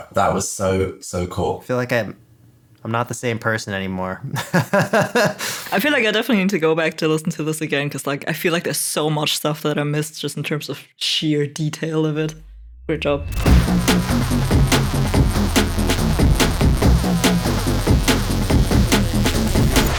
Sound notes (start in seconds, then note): 4.7 laughing; 12.4 awesome electronic music